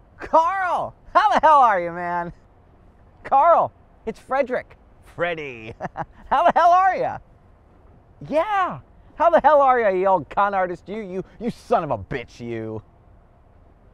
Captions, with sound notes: Carl, how the hell are you, man? Carl, it's Frederick, Freddy! (laughs) How the hell are ya? Yeah, how the hell are ya, you old con artist, you, you son of a bitch, you?